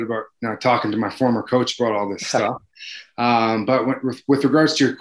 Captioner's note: chuckles